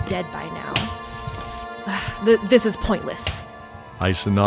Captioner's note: sigh